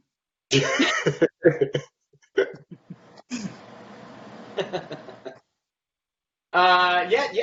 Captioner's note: laughter